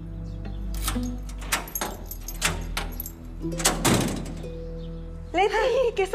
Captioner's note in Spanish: Puerta se abre